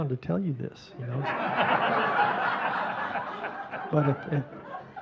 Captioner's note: audience laughing